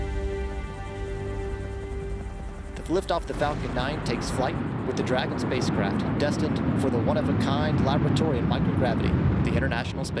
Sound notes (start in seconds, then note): 1.0 helicopter rotors droning